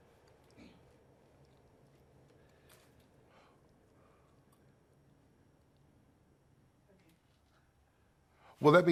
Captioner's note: silence